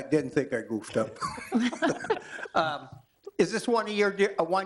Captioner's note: laughter